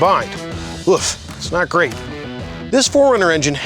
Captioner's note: scoffs